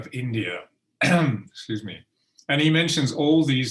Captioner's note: clears throat